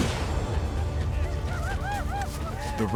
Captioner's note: gunshots; war cries